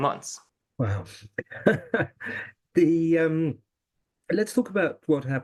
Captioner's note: laugh